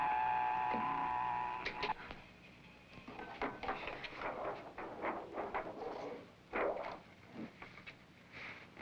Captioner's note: soft buzzing